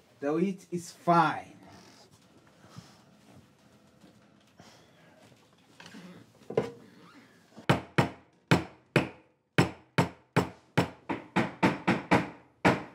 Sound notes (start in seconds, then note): 9.6 hammer thuds